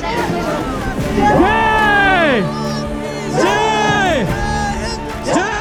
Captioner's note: chanting Slogans